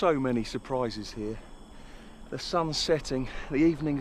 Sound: inhales

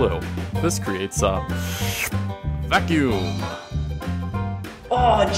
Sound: whooshing sound

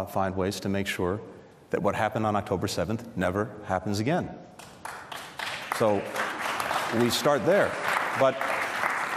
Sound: applause

